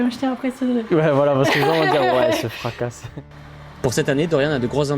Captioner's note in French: rires